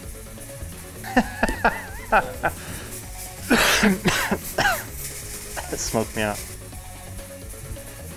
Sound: laughter; cough

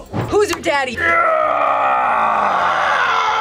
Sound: grunts

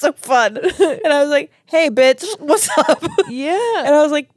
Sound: laughs

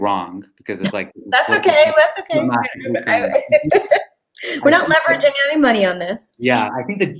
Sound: chuckle

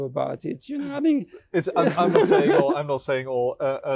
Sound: laughing

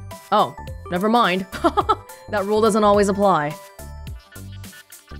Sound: chuckles

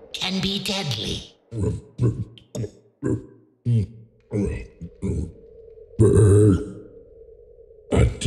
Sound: eats the squirming frog..then burps

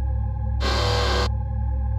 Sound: robot sound effect

